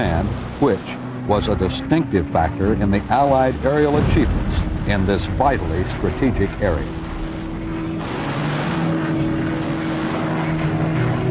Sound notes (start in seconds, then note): 7.8 aircraft whirring